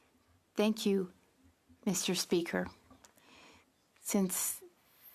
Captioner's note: speaking French